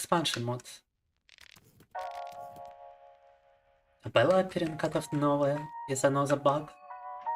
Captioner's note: speaking in foreign language